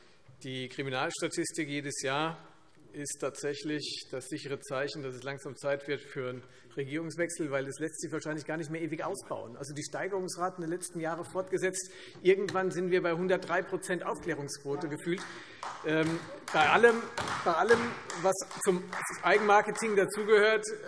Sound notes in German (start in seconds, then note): 15.1 Beifall Freie Demokraten und vereinzelt SPD